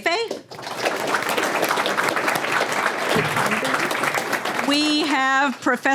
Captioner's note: applause